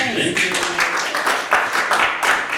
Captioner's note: applause